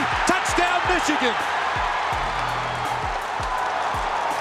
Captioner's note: cheering